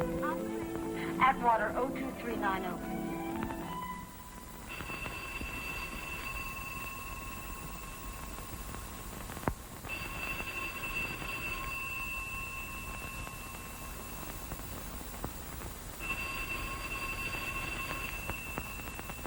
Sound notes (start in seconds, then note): 0.6 on phone; 4.6 phone ringing